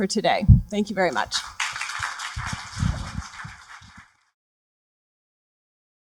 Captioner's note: applause